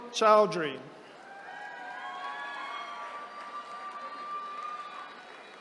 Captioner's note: attendees cheering